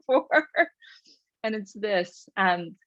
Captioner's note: chuckles